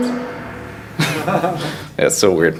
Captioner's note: all laugh